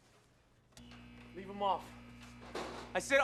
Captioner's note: lights hum